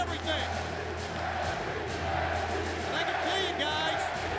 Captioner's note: crowd cheering